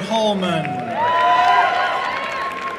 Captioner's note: applause and cheering